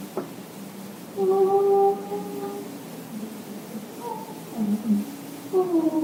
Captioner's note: creature continues vocalizing